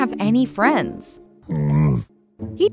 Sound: Camelot grunting

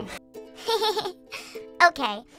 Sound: giggles

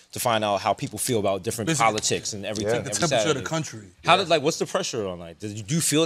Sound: none

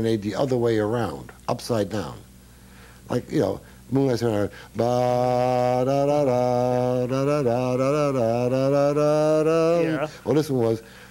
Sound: humms

